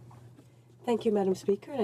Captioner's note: speaking French